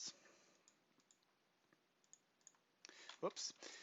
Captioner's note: clicking